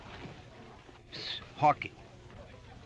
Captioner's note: whispering